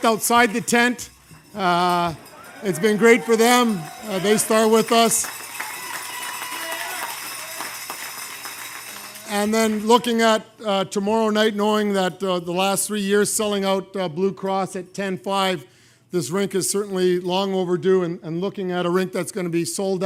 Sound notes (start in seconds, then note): 2.1 cheers and applause